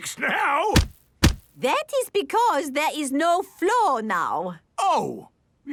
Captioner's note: thuds